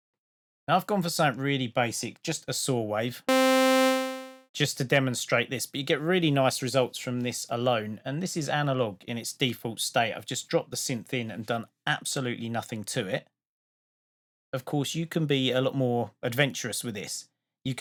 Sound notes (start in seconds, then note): 3.3 spacey sound